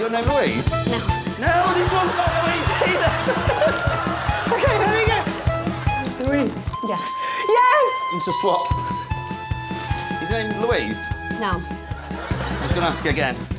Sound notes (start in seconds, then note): 1.4 laughs